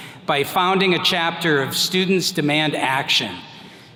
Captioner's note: none